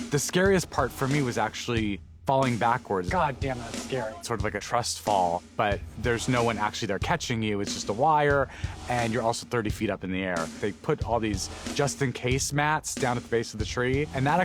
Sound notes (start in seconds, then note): none